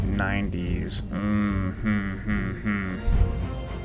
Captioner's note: hums